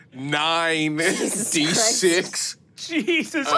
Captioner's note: laughs